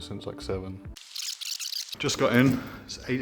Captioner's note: camera rewinds